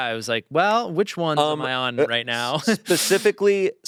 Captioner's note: laughs